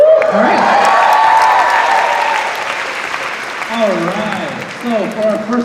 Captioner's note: cheering